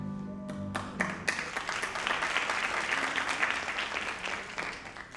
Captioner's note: audience applauding